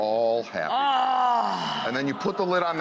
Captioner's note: groans in delight